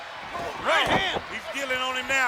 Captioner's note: heavy thudding